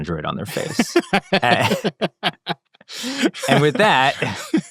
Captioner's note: laughing